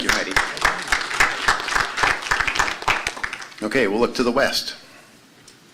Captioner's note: applause